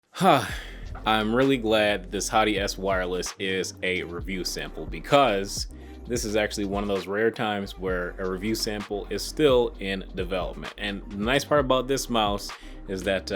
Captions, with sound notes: (breathes out) I'm really glad this Hati-S Wireless is a review sample because this is actually one of those rare times where a review sample is still in development. And, the nice part about this mouse is that